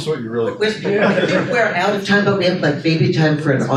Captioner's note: audience chuckles